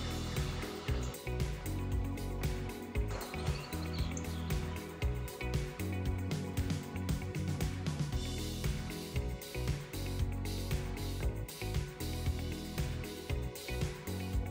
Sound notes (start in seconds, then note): none